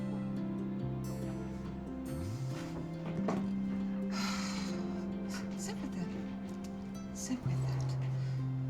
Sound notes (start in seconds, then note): 4.0 sighs